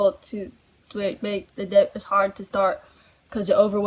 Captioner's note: stammers